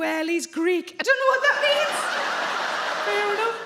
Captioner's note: audience laugh